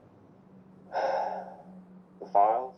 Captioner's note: sighs